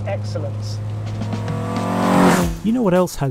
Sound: car engine revving; upbeat music

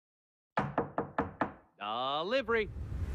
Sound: knock

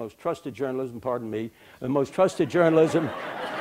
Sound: laughter

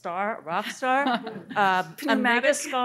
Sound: laughing

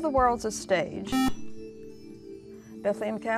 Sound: buzzer

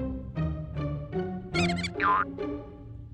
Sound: mouse squeaks

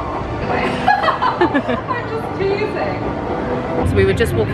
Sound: laughing

